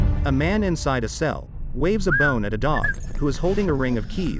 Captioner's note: man whistles